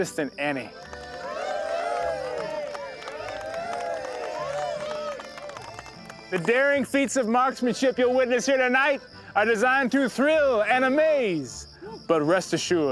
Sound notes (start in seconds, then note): 0.7 cheering, applause